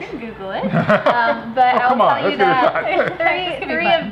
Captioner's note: laughing